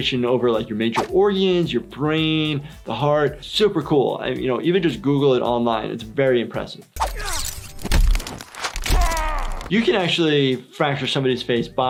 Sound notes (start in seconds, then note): 7.0 metal slashing; 7.0 metal crunching; 8.9 grunting